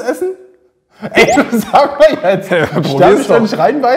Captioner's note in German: Sagt lachend etwas